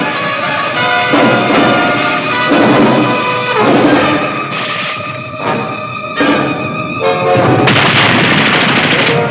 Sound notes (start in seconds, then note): 7.4 grenade explodes